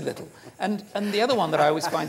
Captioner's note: laughing